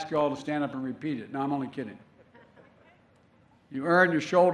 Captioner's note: laughter